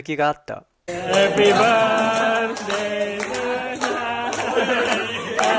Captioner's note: applause